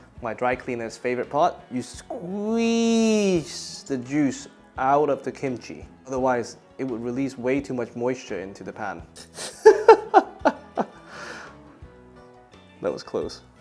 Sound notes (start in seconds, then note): 9.2 laughs